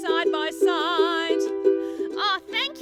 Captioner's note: speaks